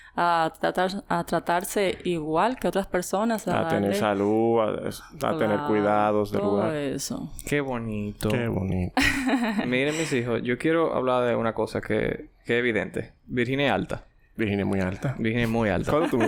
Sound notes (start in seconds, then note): 9.0 laughs